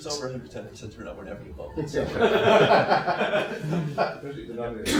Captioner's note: laughter